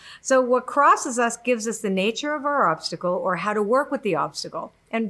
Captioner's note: none